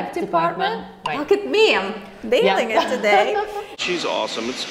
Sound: laughing

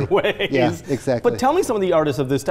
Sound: laughs

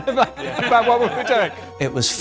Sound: laughter

